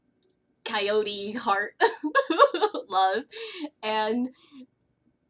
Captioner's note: laughter